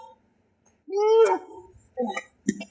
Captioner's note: smooch